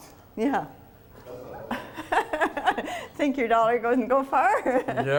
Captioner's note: laughing